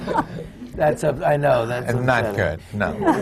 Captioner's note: laughter